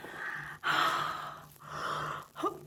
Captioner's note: heavy breathing